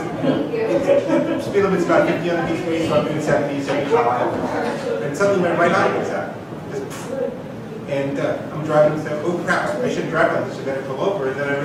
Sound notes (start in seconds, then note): 7.1 mimics explosion